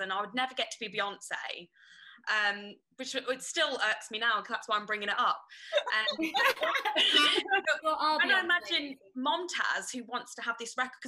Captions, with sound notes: and I would never get to be Beyonce, which still irks me now because that's why I'm bringing it up. (laughing) - When I imagine Momtaz, who wants to have this record-